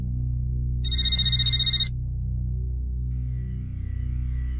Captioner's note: phone ringing